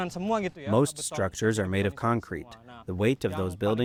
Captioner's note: through translator